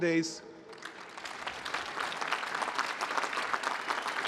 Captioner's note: applause